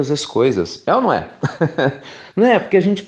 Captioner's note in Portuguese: risos